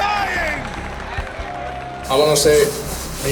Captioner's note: crowd cheering